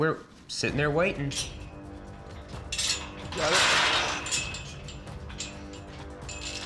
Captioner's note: clanking sound